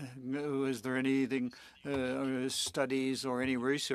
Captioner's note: speaking French